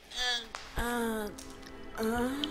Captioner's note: groaning; gloomy music